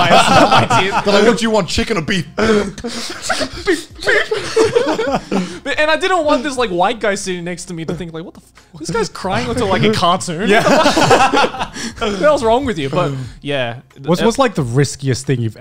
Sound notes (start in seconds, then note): 2.2 imitating sobs; 4.4 laughing; 10.7 group laughs